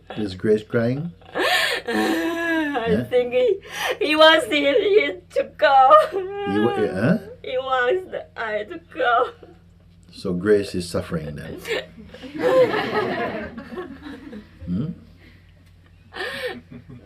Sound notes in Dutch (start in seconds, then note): 8.7 huilend; 15.3 gelach